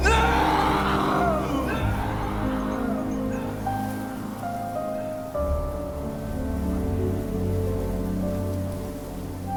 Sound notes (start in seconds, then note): 0.0 echoes; 2.4 soft dramatic music continues; 5.2 wind whistling